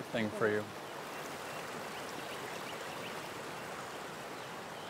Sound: water rushing

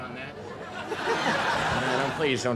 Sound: crowd laughs

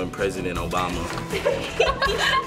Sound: laughter

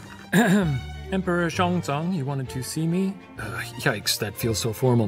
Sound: clears throat

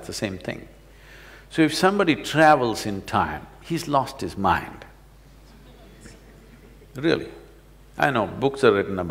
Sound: laughter

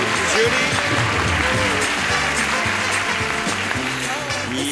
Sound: cheering

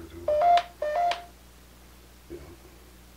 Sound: phone beeps

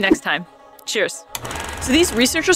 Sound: film rolling sound effect

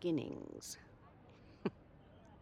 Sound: laugh

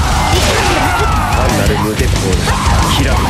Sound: fatal scream

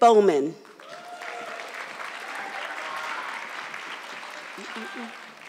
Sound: audience clapping

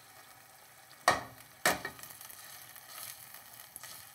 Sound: kitchen utensils clamor

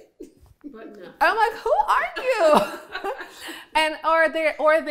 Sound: laughing

